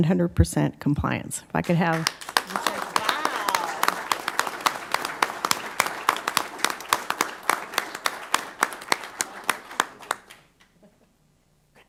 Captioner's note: applause